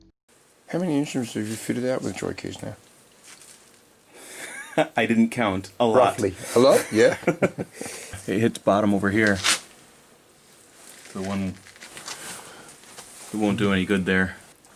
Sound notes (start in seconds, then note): 3.6 laughter